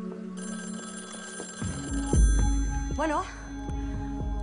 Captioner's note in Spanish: Suena el teléfono